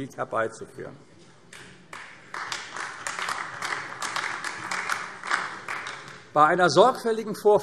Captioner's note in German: Beifall AfD